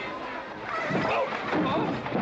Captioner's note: horse neighing